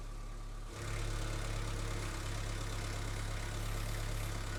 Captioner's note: engine revving